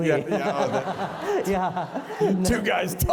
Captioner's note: laughter